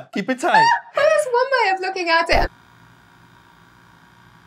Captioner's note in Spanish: risas